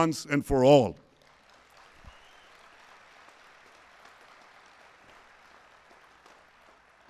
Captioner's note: applause